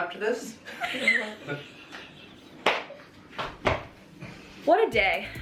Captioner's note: laughing